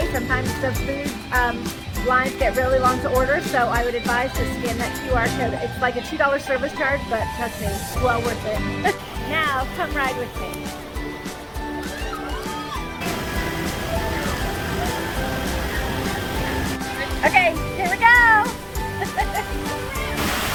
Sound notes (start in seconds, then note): 11.5 upbeat music; 11.5 water splashing